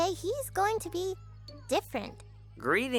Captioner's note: nerdy voice